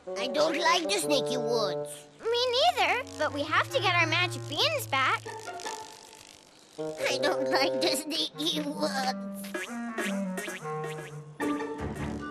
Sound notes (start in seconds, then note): 9.5 beans bounce